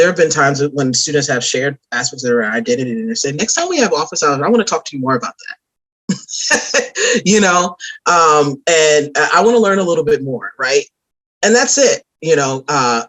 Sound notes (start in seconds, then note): 6.3 laughs